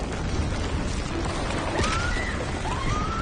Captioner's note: screams